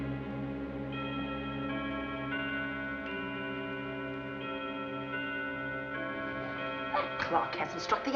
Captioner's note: clock Chimes